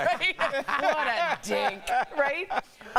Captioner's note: laughter